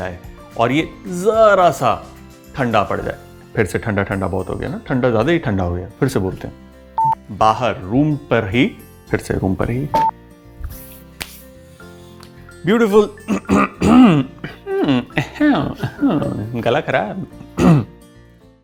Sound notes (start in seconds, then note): 13.3 throat scratches